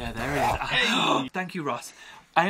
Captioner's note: gasping